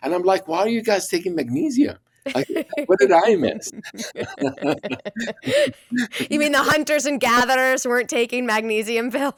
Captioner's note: laughter